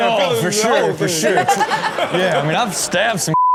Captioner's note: laughing